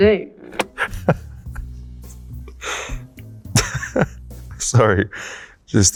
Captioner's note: laughs